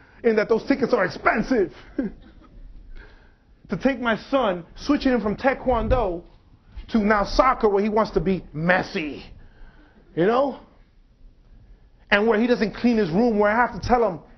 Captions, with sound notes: in that those tickets are expensive. [laughs] To take my son switching from taekwondo to now soccer where he wants to be Messi, you know. And where he doesn't clean his room, where I have to tell him,